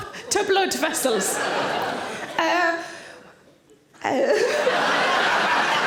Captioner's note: audience laughing